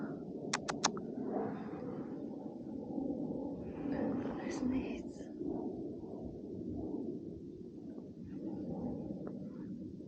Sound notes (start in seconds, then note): 3.1 airplane noises